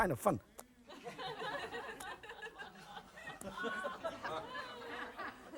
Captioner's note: audience laughing